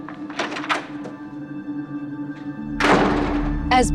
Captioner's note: ominous music; door opens; door slams